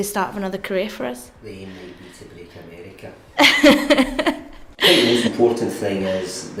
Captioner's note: laughs